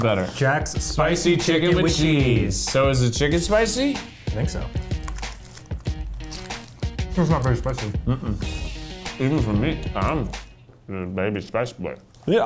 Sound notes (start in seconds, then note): 8.5 humming